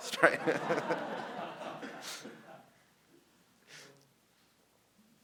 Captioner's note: audience laughing